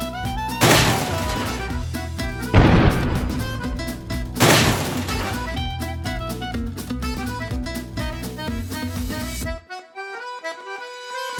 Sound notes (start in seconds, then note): 0.7 banging and crashing